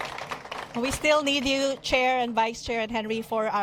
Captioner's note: applause